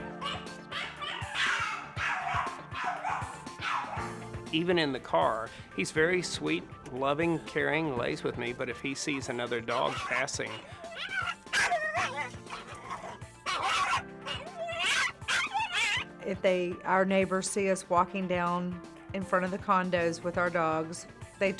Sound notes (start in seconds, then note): 9.6 aggressive barking